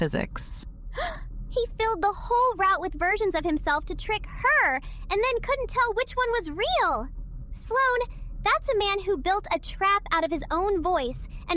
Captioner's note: gasp